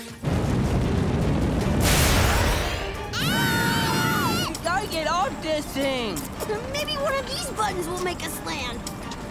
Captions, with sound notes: [screaming] We gotta get off this thing! Maybe one of these buttons will make us land.